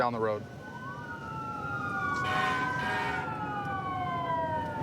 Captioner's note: emt sirens blaring